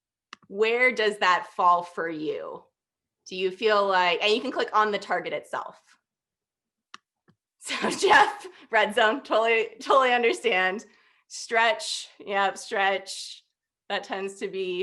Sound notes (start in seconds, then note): 7.6 laughter